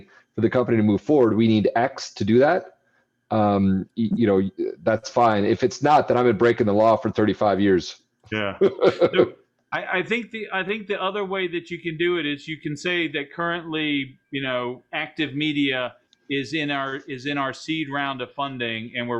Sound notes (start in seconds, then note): 8.4 laughs